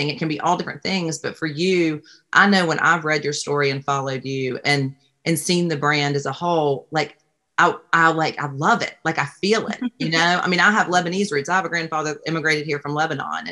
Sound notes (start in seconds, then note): 9.6 laughs